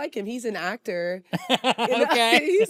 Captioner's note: laughs